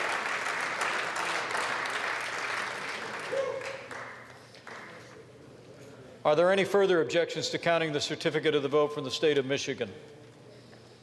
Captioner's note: applause